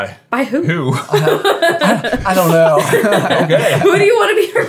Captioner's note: laughing